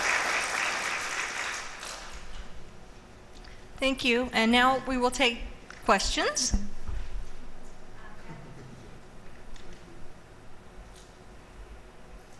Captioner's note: applause